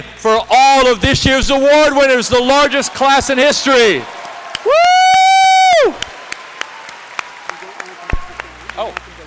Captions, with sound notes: for all of this year's award winners, the largest class in history! [CHEERING, APPLAUSE]